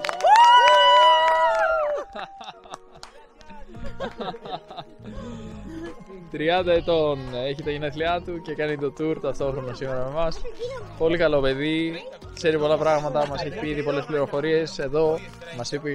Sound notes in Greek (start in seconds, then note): 0.0 χειροκρότημα